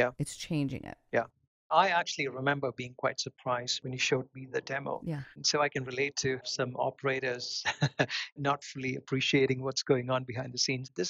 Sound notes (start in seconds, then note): 7.6 laughs